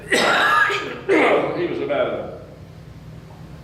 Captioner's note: coughs